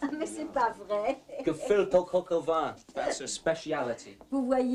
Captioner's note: speaking french